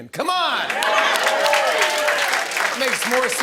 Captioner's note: cheering and applause